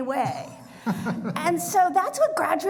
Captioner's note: laughs